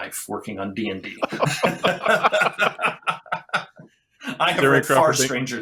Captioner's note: laughter